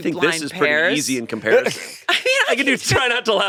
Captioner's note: all laughing